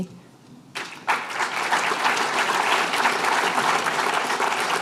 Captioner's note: applause